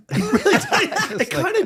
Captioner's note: both laughing